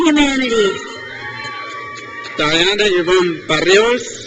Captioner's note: crowd cheers